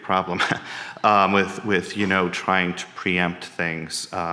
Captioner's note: chuckles